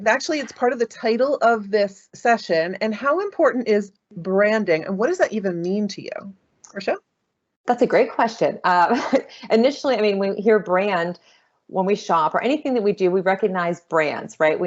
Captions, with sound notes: and actually it's part of the title of this session, and how important is branding and what does that even mean to you, Rachelle? - That's a great question. (chuckling) Initially, I mean, we hear brand when we shop, or anything that we do, we recognize brands, right?